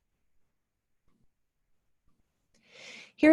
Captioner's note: silence